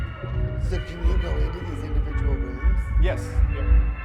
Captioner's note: spooky sound; screaming; laughing